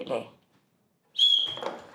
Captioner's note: whistle